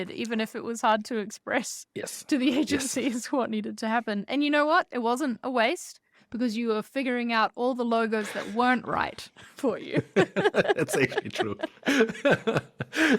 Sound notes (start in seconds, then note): 9.9 both laugh